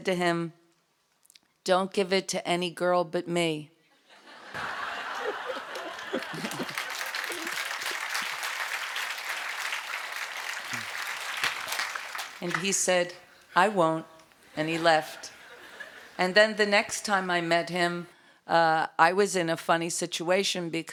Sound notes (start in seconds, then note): 4.0 laughter; 4.5 applause